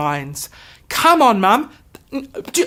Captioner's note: stammers